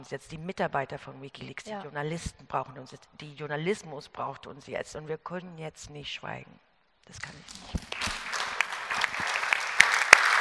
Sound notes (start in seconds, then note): 7.7 Applaus